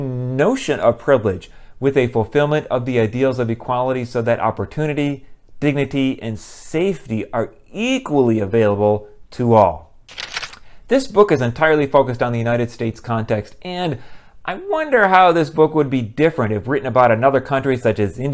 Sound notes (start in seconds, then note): 10.1 page turn